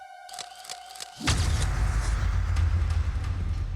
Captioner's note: camera shutter clicks